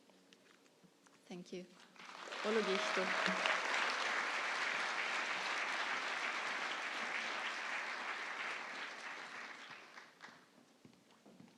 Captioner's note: applause